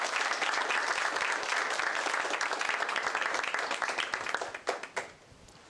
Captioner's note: applause